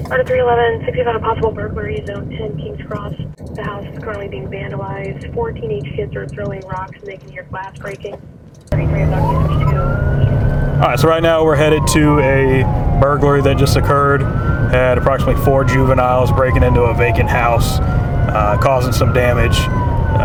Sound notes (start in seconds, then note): 9.2 siren blaring; 9.2 siren drowns out dispatcher